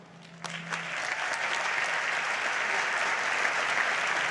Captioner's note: audience applauds